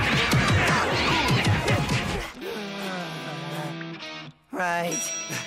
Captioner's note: panting; fighting grunts